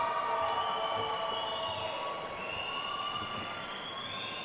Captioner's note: attendees cheering and applauding; attendees whistling